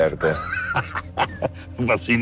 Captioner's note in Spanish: Carcajadas